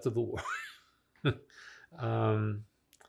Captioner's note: laughng